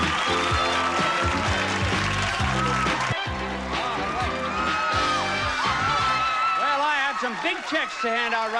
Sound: audience applauding

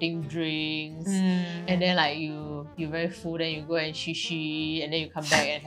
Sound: peeing-sound

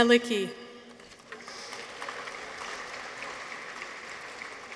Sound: audience applauds

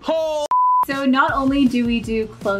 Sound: tv beeping

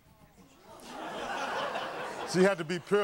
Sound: audience laughing

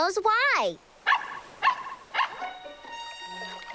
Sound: barking

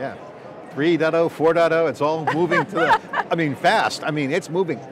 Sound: laughing

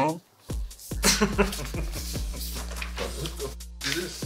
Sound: Broky laughs

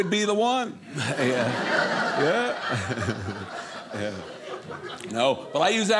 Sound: audience laughing

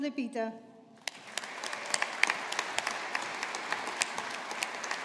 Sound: audience applauding

